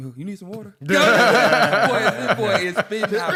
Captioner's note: laughter